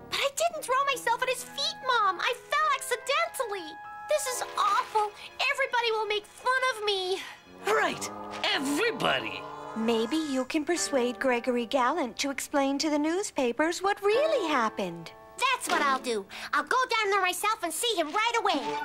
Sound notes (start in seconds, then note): none